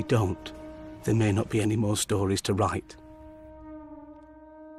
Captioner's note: blowing horn